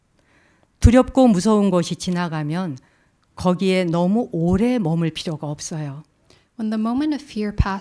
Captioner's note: speaking in Korean